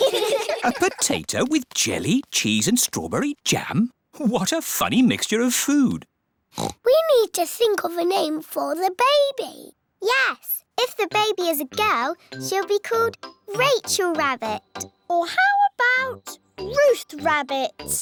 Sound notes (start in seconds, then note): 0.0 giggling; 6.5 oinks